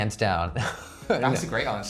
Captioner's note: laughs; choir sings